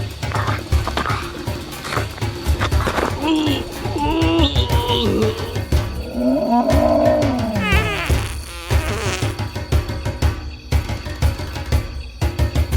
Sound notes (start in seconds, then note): 1.0 upbeat drumbeat music continues; 4.3 Og grunting; 6.7 dinosaur growling and farting